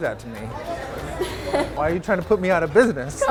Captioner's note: laughing